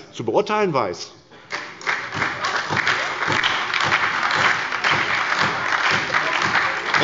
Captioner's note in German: Beifall bei der SPD